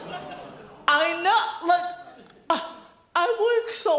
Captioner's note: audience groans; scoff